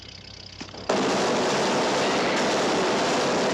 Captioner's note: machine Gun Fire